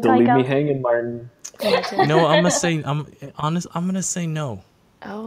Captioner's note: laughs